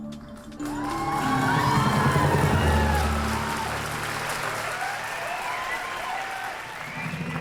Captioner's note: cheering